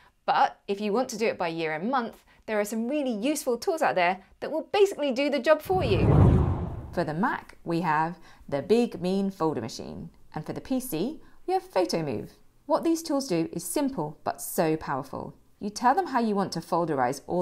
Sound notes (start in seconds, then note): 5.6 air swooshing